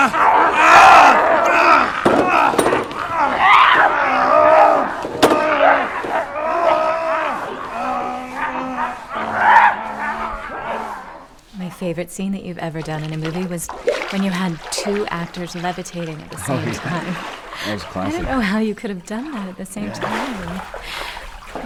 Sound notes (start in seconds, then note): 3.0 screams; 8.4 animalistic screams